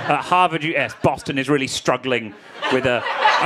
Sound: crowd laughing

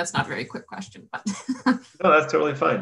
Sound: laugh

